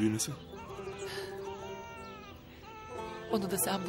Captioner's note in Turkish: bebek ağlama sesi̇